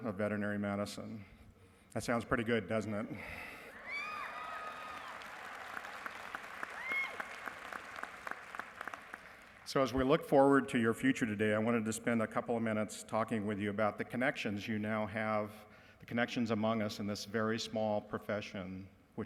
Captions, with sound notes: of veterinary medicine. That sounds pretty good, doesn't it? [CHEERING] So as we look forward to your future today, I wanted to spend a couple of minutes talking with you about the connections you now have, the connections among us in this very small profession